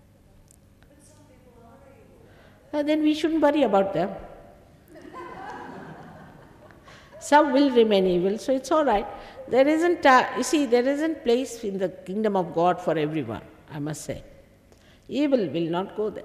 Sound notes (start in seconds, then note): 4.9 laughter